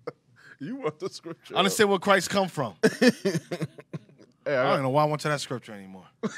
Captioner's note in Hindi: हस रहा